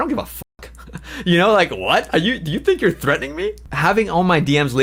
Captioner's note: laughs